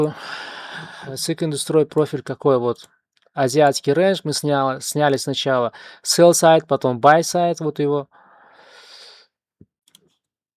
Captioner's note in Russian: вздыхает